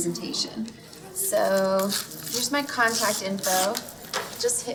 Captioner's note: paper ripping